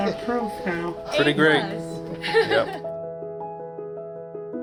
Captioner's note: nurse laughing; gentle piano music continues